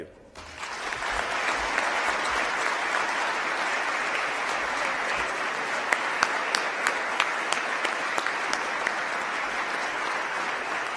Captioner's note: applause